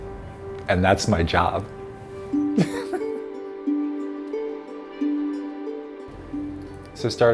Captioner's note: laughter